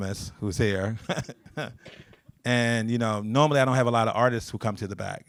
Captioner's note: chuckles